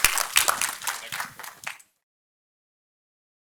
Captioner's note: audience applauding